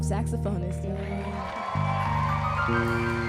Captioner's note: cheering